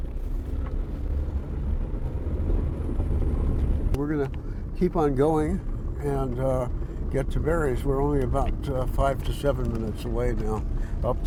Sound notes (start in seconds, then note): 1.9 engine accelerating